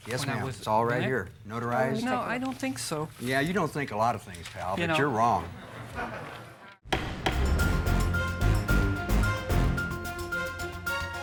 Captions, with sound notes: Yes, ma'am, it's all right here, notarized. - Well, let me take it. - No, I don't think so. - Yeah, you don't think a lot of things, pal, but you're wrong. - You know. (spectators chuckling) (gavel strikes block) (gentle dramatic music)